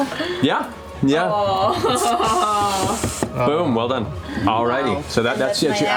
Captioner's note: groans